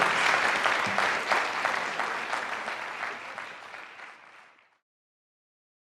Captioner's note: applause